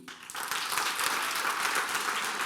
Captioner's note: applause